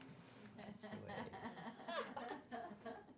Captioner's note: laughter